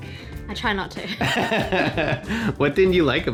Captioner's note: laughing